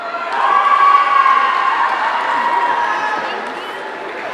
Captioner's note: audience cheering